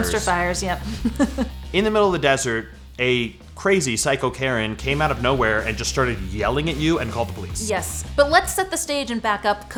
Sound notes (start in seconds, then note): 0.0 laughs